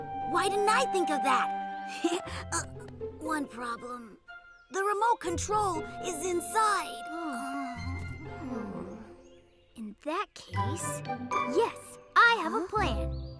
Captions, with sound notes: Why didn't I think of that? Uh... one problem. The remote control is inside. [sighs] In that case... yes, I have a plan.